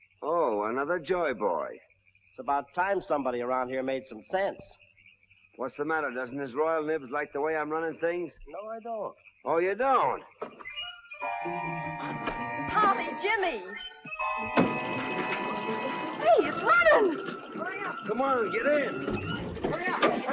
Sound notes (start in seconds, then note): 14.0 door thudding; 15.1 engine puttering